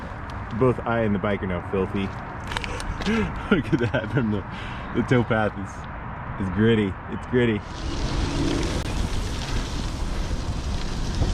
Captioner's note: laughing